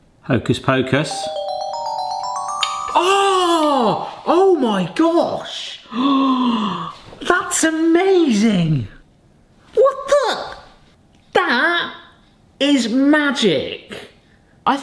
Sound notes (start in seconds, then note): 1.1 magical music; 6.1 gasps